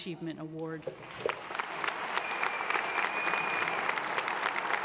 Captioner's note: applause